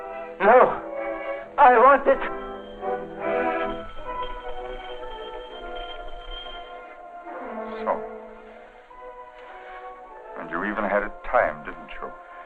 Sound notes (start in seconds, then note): 3.5 doorbell ringing